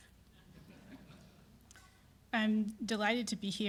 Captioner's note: audience chuckle